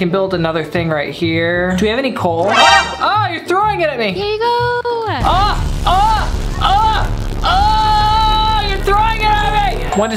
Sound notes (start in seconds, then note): 5.3 screams